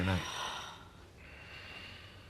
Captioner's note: slGHlNG